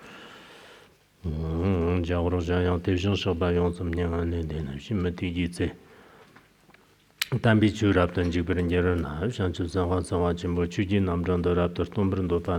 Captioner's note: giving oral transmission in Tibetan